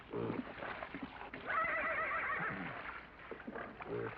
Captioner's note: horse neighs